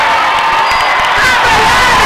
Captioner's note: crowd cheers; dinging